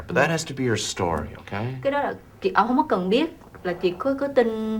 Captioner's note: speaking vietnamese